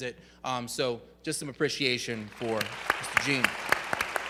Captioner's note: audience gives applause